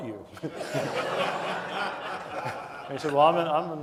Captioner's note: audience laughing